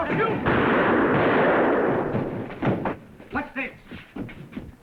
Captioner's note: gunshot firing